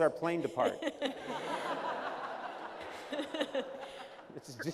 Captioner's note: laughter